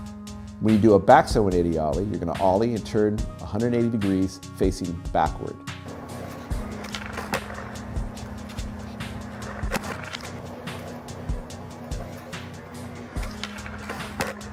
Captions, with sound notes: When you do a backside 180 Ollie, you're gonna Ollie and turn 180 degrees facing backward. (skateboard rumbling)